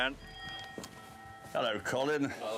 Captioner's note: bell chiming